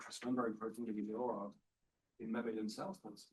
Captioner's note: speaking faintly